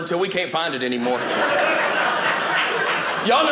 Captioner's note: audience laughing